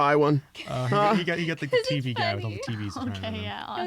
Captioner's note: laughing